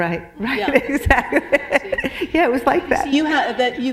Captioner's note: laughter